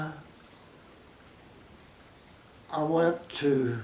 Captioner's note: pause